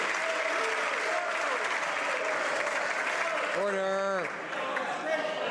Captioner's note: some applause